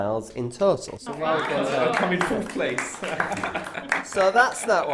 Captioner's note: clapping